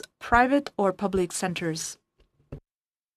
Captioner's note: speaking in French